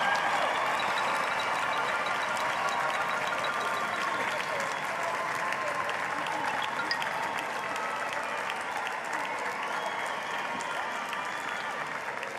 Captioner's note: applause